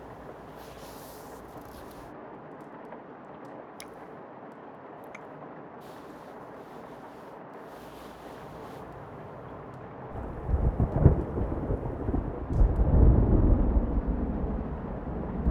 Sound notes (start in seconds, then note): 10.1 thunder rumbles in the distance